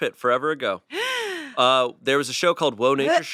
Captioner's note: gasps